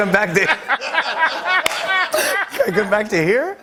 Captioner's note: laughter